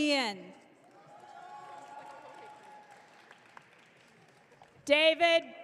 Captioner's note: audience cheering